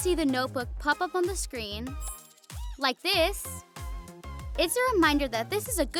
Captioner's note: notebook shimmering